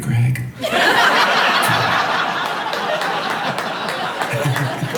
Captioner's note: audience laughing